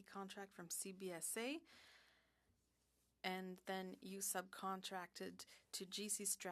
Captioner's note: speaking French